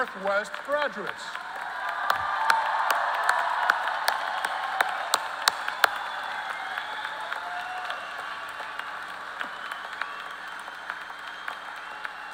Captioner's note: applause